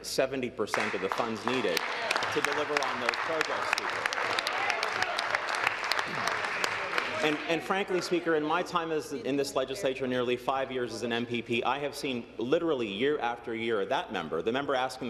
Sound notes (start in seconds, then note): 5.3 applause